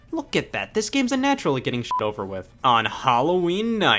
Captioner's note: beep